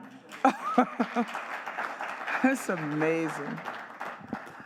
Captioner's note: audience clapping